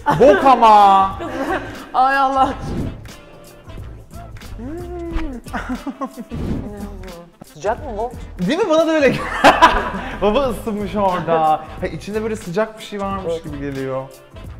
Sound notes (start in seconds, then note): 5.5 pompous laugh; 9.1 laughs